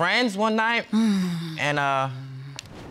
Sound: sighs

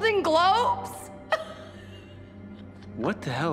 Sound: laughs

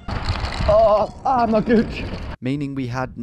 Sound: bike rumbling

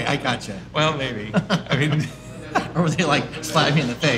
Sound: laughing

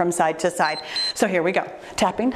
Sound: timer beeps

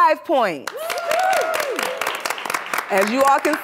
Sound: cheers and applause

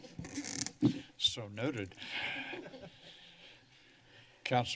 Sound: laughs; laughter

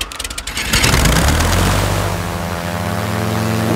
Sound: plane humming

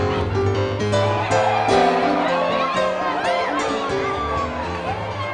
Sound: crowd cheering; music and crowd fade out

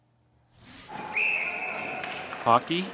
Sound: whistle blows

